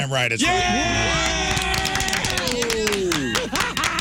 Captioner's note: cheering